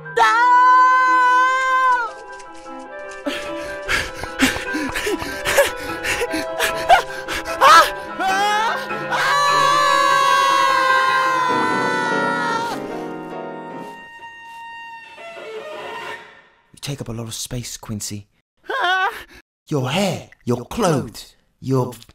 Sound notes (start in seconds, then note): 3.2 gasping breaths, heads still popping; 9.0 screams; 15.1 screeching violins